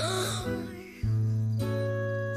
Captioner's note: big snore; gasps